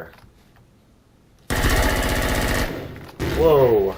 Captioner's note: automatic gunfire; explosion